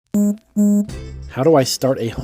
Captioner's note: gentle beeping